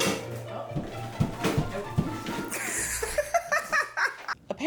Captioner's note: laughter